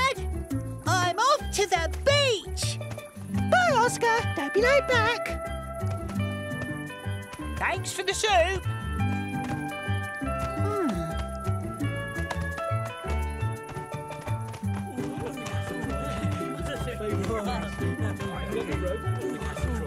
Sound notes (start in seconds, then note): 11.9 chatter excitedly